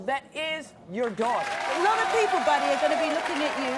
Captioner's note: audience applauding